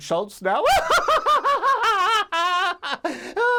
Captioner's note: laughs